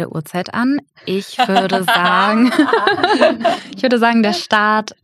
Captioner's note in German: Gelächter